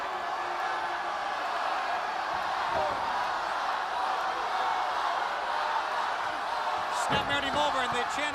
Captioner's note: crowd chatter